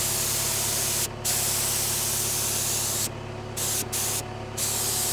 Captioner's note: sprayer whirring